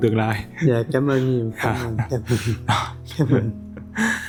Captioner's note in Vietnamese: tiếng cười